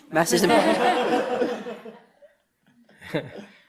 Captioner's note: audience laughter